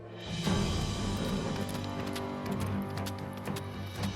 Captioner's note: hoofbeats; suspense music